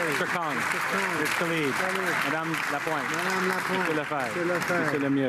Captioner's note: applause